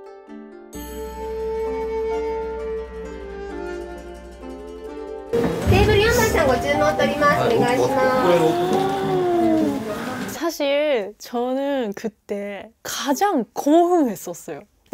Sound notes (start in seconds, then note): 5.7 japanese staff speaks in Japanese